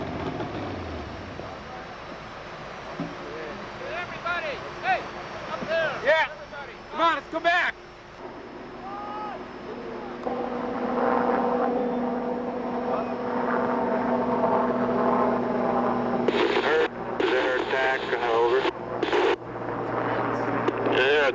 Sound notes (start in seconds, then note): 9.2 scream in the distance; 10.6 helicopter sounds